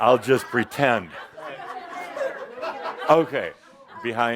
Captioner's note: laughter